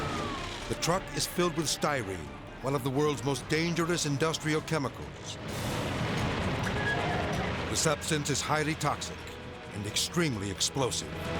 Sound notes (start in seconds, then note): 0.0 energetic dramatic music; 0.0 siren blaring; 5.9 fire roaring